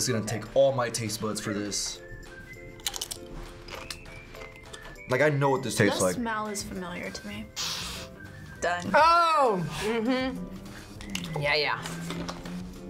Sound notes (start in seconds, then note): 2.8 chip crunches; 7.5 sniffs